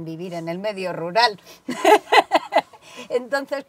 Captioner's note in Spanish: risas